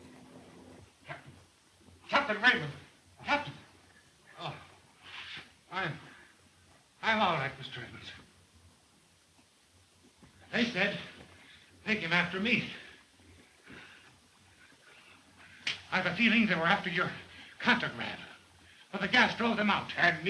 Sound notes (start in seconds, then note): 4.3 moans